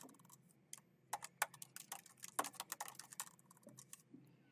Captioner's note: keyboard clacking